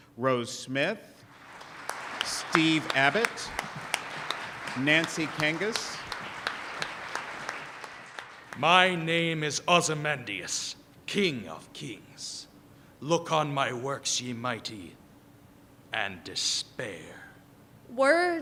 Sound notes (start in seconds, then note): 7.0 applause